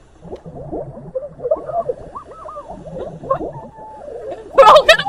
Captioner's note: drowned screams